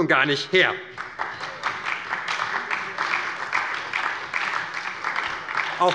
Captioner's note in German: Beifall bei der SPD